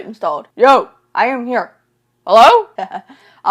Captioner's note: laughs